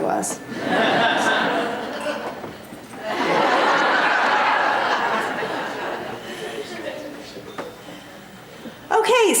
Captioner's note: laughter